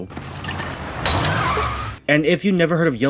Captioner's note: crash!